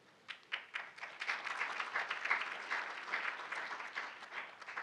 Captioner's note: audience applauding